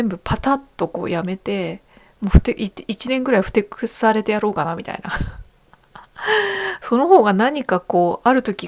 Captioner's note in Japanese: 息をのむ音